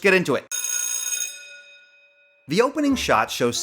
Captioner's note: bell rings